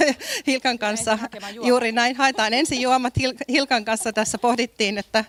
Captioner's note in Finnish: naurua